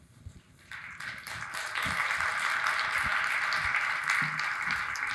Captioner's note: audience applauding